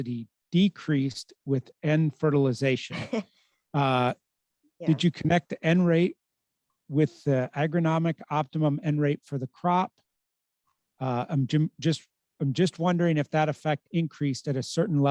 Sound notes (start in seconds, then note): 2.8 laughs